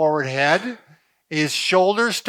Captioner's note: exhales